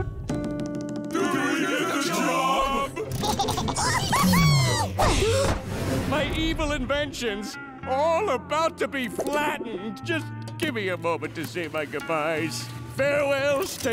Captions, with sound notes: Oh! Do we get the job? [laughing] Whoo hoo hoo! [gasping] My evil inventions. All about to be flattened. Just give me a moment to say my goodbyes.